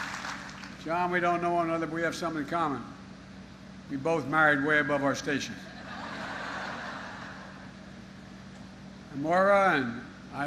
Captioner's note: applause